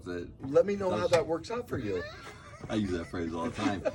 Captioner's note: laughing